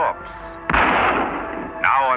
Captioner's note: gun fires